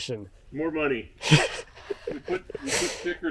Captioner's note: laughing